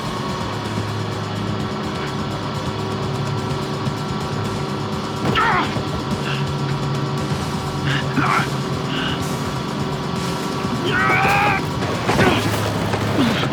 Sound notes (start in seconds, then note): 4.9 grunting